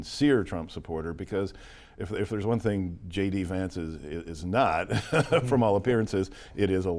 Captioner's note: laughs